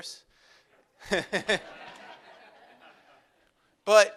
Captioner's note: laughs